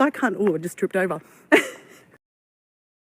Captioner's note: laughter